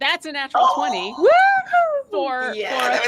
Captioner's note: whoops loudly